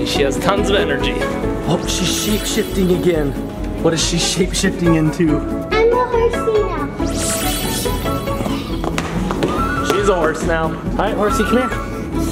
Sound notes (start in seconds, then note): 7.1 audio tinkles; 8.8 footsteps clopping